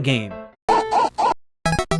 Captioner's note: dog barking